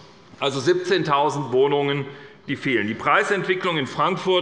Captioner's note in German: none